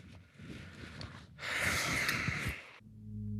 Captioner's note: sighs